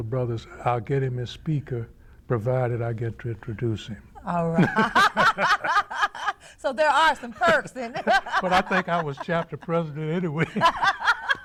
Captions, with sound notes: brothers I'll get him his speaker, provided I get to introduce him. Alright (laughter) So there are some perks, but I think I was Chapter President anyway.